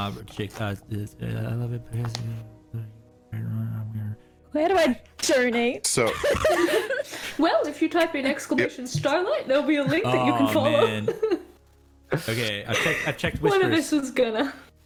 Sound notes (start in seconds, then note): 6.1 embarrassed giggle